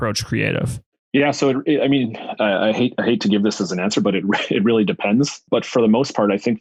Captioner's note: laughs